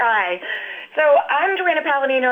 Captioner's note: laughs